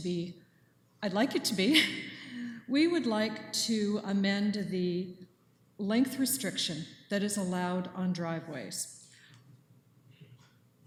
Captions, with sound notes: like it to be--I'd like it to be [chuckles]. We would like to amend of the length restriction that is allowed on driveways.